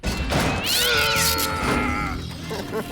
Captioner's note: door slams; cat hisses and yowls, biffy stifles a pained groan; laughs nervously